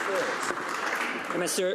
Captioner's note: some Applause